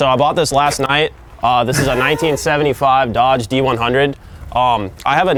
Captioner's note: chuckles